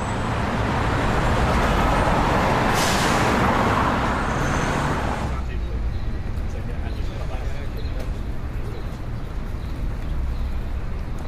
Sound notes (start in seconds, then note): 0.6 city street traffic